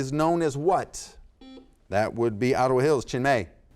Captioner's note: buzzer sounds